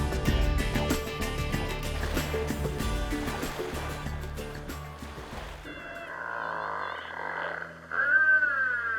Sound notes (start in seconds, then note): 1.6 water lapping; 7.3 whale sounds